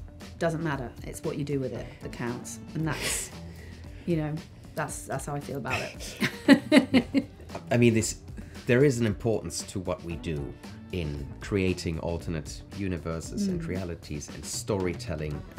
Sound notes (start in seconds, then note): 6.0 laughs